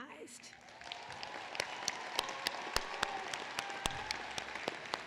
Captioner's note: applause